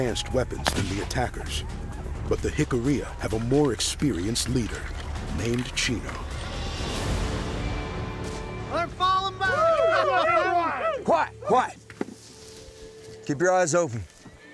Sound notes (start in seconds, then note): 9.0 cheering